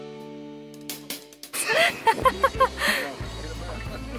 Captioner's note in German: Lachen